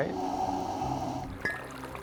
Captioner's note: hissing; splashing; clink